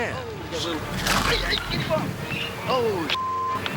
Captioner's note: man shouting; shark munches; beep